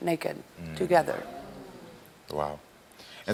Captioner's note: crowd exclaiming sadly